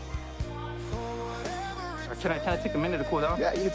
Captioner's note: exhales